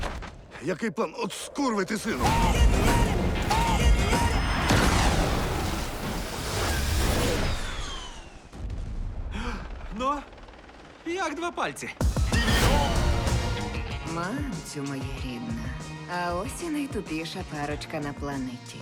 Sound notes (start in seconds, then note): 9.3 sighs